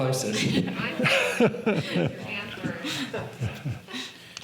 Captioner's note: laughing